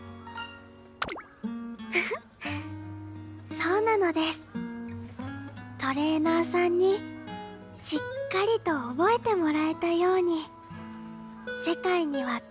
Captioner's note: giggle